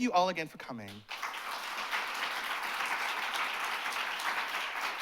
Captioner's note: applause